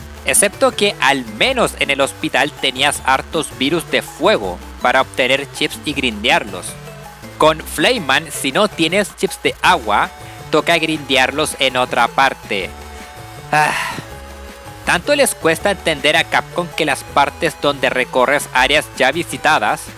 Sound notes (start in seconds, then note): 13.5 sigh